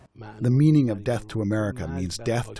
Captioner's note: through translator